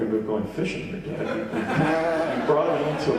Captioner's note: audience laughing